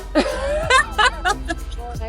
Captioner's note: laughing